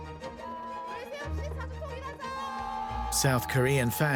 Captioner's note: speaking Korean